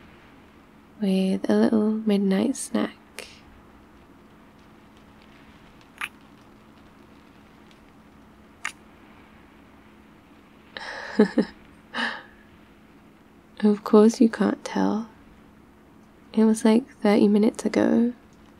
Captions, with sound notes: with a little midnight snack *kiss* *kiss* *laughs* of course you can't tell it was like 30 minutes ago